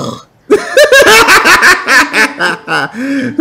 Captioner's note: laugh